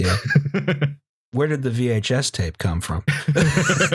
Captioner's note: laughter